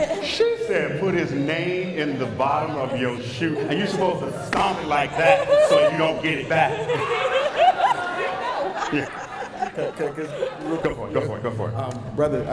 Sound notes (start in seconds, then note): 4.9 laughter